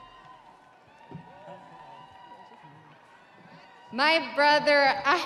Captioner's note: audience cheering